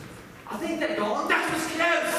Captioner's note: in British accents